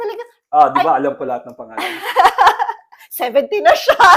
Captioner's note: laughter